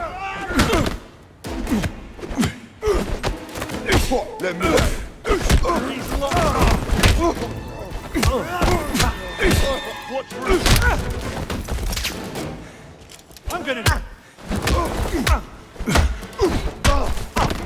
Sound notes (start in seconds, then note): 5.2 groaning